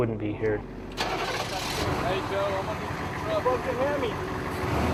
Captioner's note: Humvee engine starts